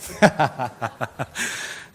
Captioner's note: laughs